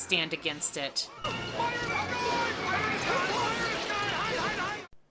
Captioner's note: frantic shouting